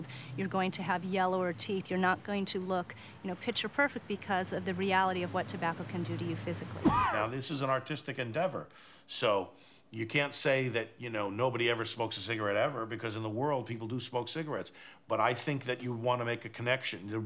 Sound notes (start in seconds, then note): 6.8 coughs